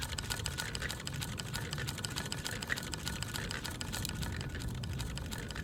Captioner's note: windmill noise